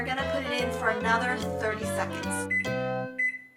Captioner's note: beeping